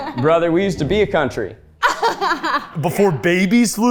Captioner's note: laughing